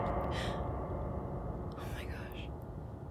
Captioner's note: gasp